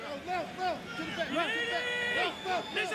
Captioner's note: shouting